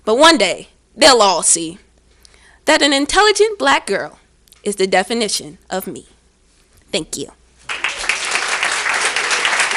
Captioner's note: clapping